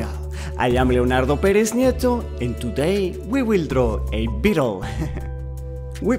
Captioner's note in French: rires